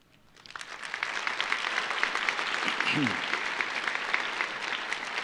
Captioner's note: audience applauding